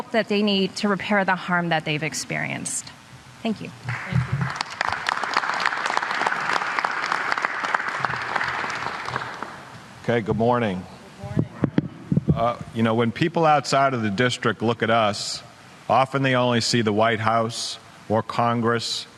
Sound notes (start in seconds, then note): 10.1 applause